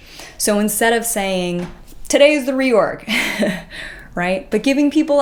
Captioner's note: chuckles